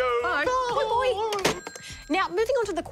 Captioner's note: laughs